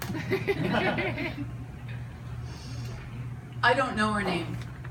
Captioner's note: audience laughs